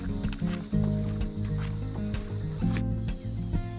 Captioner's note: cicadas buzzing